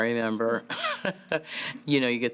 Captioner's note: laugh